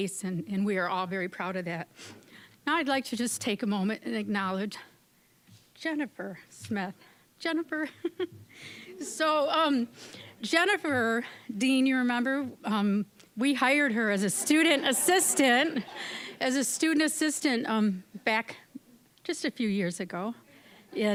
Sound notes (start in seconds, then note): 7.8 giggling; 14.2 audience laughing